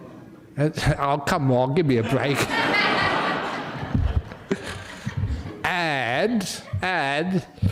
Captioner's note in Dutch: lachen; lachen